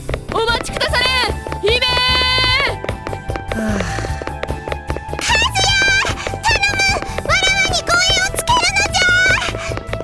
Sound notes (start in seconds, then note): 3.5 sigh